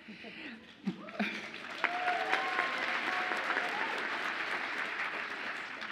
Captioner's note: audience applauds and cheers